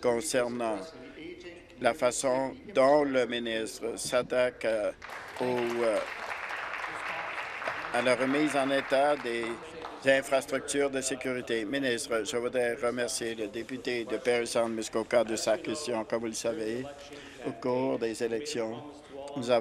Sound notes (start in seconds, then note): 7.5 applause